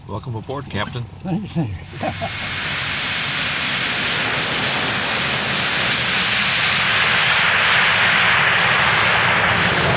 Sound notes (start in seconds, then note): 3.3 jet engine revving